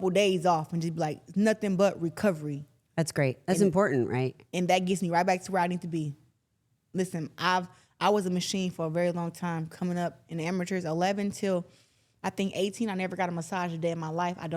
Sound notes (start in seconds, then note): none